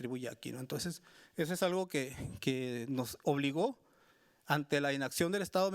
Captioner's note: speaking Spanish continues